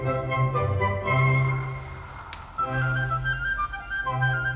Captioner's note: whispering; classical music continues